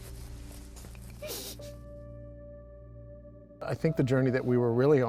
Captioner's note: sobbing